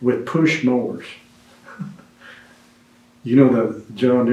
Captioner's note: laughs